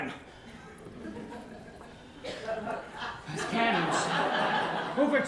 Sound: laughter

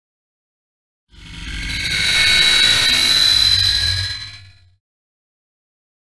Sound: monster screech

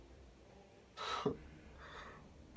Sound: low breathe

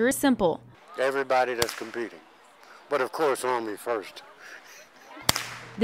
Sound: chuckles

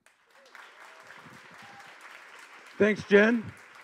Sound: audience applause

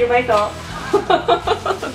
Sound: laughter

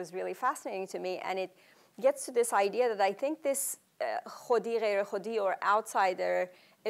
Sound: non-english speech

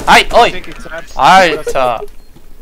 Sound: laugh

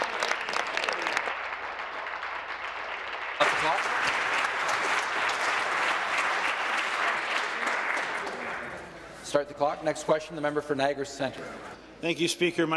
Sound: applause

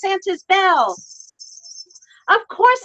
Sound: bells jingling

